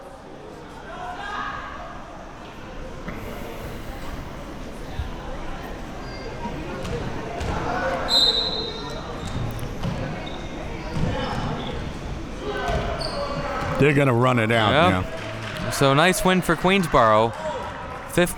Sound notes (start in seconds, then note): 1.2 spectators shouting; 8.0 whistle blowing; 10.4 spectators shouting